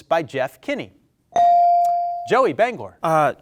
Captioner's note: bell dings